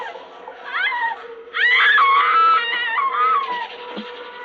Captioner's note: screaming